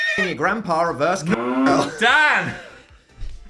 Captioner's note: cow mooing; horse neighing